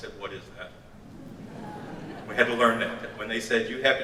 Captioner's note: audience laughs